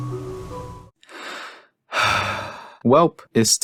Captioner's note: sighs